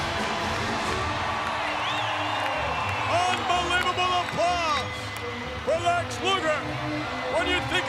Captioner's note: applause